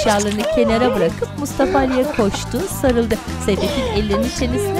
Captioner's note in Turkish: Gülme sesleri